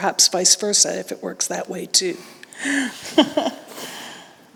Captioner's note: laughs